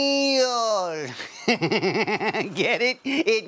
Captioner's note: snickering